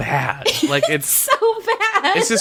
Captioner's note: laughs